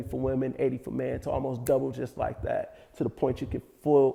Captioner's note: fingers click